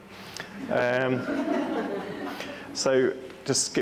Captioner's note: audience laughing